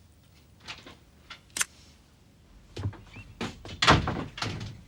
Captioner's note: door opening